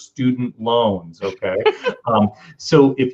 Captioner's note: chuckles